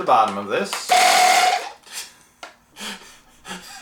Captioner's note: buzzing